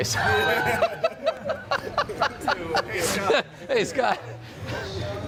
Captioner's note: laughs